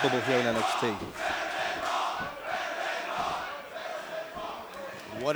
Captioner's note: fans chanting